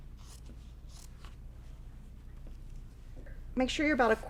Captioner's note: scissors snipping